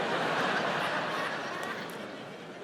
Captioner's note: audience laughs